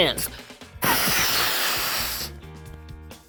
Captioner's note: instructor blows into balloon